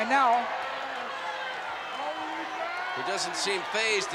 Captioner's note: applause